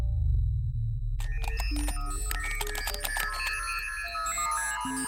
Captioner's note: electronics beeping